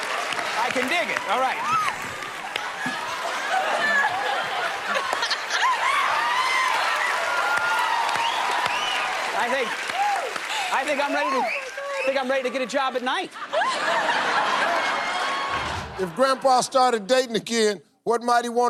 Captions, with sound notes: Alright. I can dig it. Alright. [ Laughter ] [ Wolf-whistle ] I think -- I think I'm ready to -- Oh, my God. Think I'm ready to get a job at night. [ Laughter ] If Grandpa started dating again,